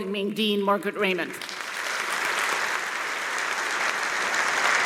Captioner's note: applause